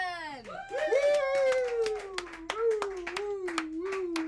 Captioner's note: all clapping